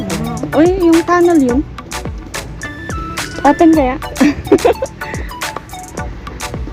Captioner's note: laugh